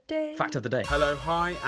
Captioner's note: voiceover